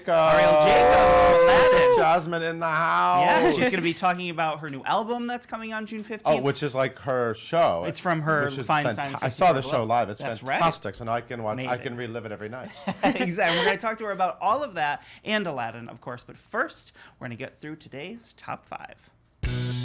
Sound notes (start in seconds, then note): 3.3 laughing; 12.7 laughs; 19.4 upbeat pop music